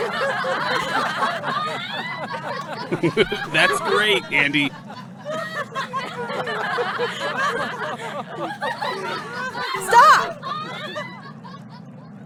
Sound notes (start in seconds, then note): 0.1 crew laughter; 5.6 crew laughter